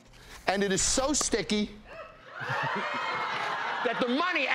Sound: gasping and laughing

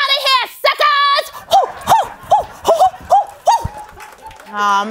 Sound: whooping

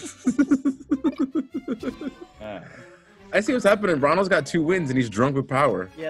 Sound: laugh

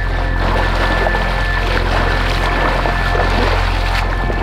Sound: water splashing

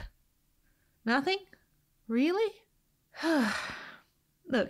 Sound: sigh

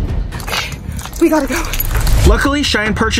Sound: panting

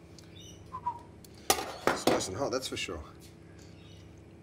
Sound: whistles

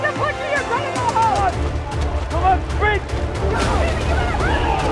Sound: on-lookers yelling

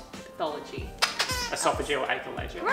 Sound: squeaks

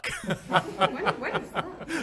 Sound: laughs

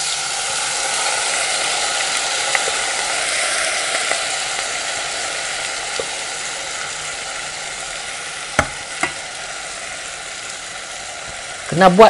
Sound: sizzling sound of rice meets oil and butter

